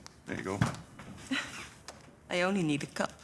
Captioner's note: laughs